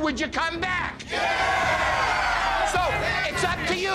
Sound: crowd

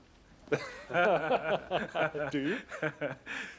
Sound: laughs

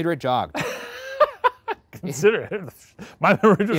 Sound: laughing

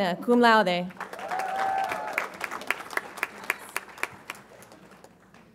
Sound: audience applauds and cheers

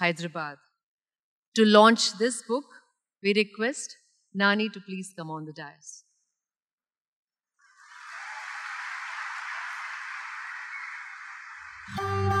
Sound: cheers/Applause

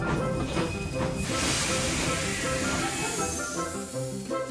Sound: steam hisses

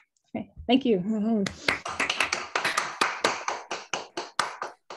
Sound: applause

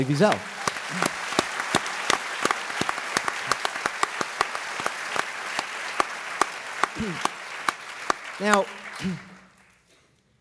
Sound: applause

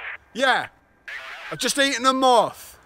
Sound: static

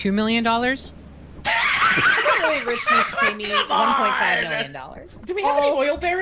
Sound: laughs

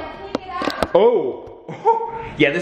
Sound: laughs

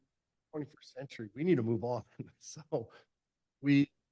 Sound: chuckle

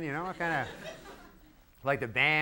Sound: giggling from audience

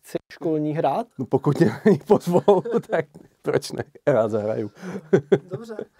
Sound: laugh

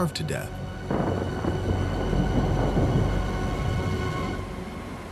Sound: thunder rumbling

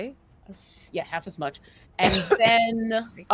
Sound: coughs

